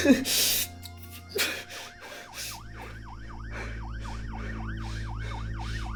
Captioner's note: police sirens wailing